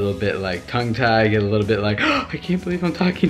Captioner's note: gasps